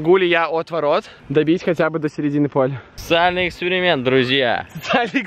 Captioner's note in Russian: смех